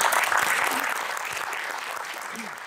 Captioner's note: audience applause